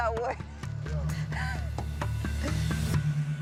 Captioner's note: laughs